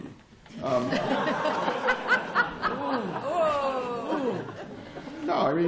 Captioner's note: laughter